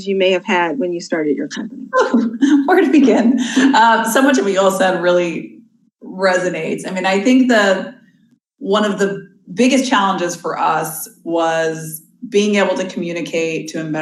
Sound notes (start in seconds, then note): 1.8 laughs